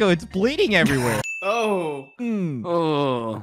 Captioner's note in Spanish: Sonidos de disgusto